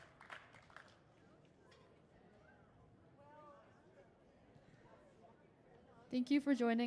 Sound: audience indistinctly chattering

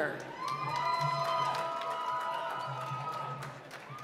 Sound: applause

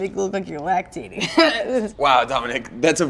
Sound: laughing

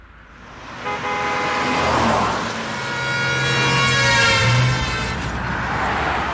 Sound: horn blares

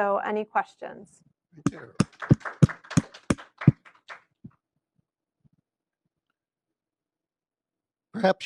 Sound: applause

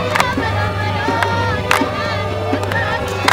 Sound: crowd chanting and clapping

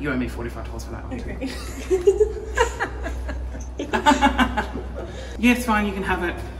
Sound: laughs sarcastically

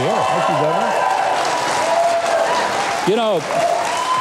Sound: audience applauding; audience cheering

